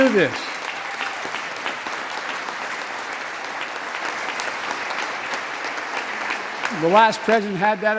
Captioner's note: applause